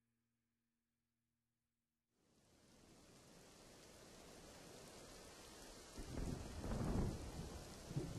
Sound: thunder rumbles

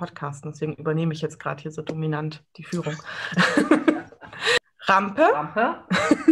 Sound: laughs; everyone laughs

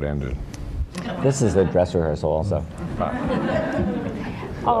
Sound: laughter

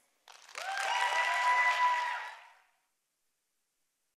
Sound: participants cheering

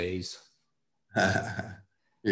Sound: laughs

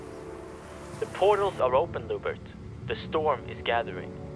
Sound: sound of water; animal howls

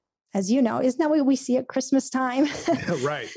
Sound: laughs

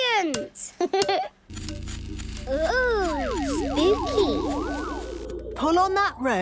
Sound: pulsing

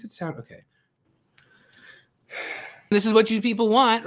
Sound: frustrated sigh

